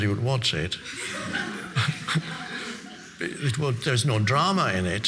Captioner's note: audience laughing